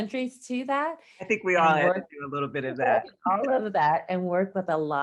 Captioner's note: laughs